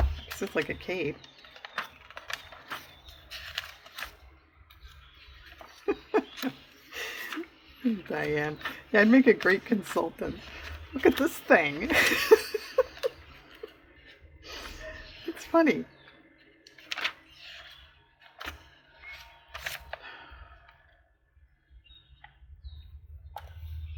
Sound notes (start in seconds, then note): 1.1 laughs